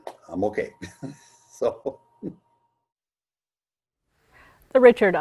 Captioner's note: laughing